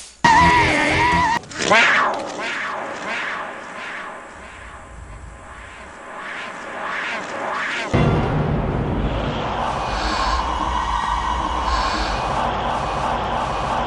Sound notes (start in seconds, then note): 1.2 Simba roars; 3.3 roar echoes; 5.6 echo reverses; 7.9 tense music; 9.8 Simba gasps and un-gasps